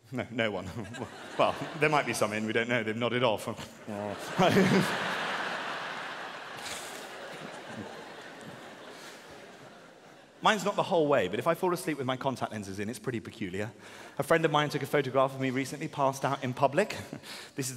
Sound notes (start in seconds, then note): 3.7 audience laughing; 3.8 laughing